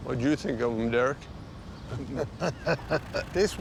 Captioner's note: laughing